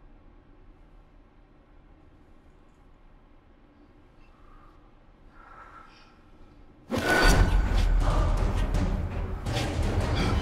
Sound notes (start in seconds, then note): 4.2 exhales; 6.9 dramatic music